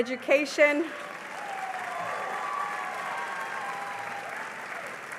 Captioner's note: cheering and applause